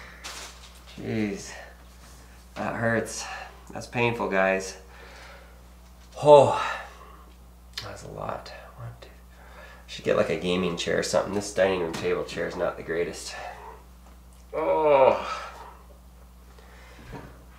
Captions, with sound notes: Geez, that hurts. That's painful, guys. Oh, that's a lot. Should get like a gaming chair or something. This dining room table chair is not the greatest. (groaning)